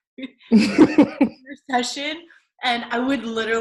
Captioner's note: laughter